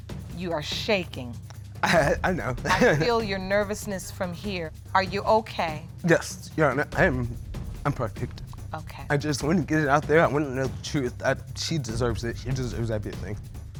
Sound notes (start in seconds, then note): 1.8 chuckling